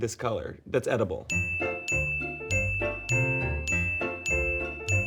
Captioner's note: repetitive beeps